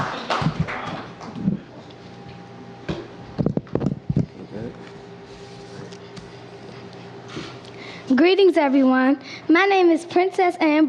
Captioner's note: cheers and applause